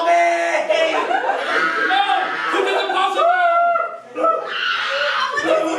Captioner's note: screams; screams like an actual infant baby wah wah